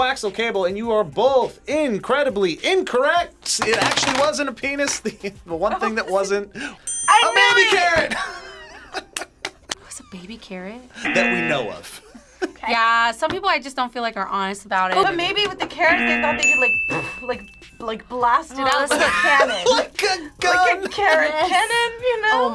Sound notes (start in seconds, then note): 8.1 laughs; 11.0 buzzer; 12.5 laughs; 18.9 laughs